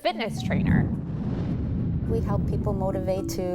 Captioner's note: graphics whooshing